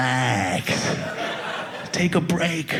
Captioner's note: audience laughing